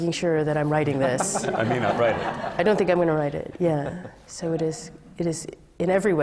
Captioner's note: laughter